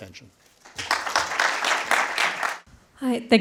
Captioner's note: audience applause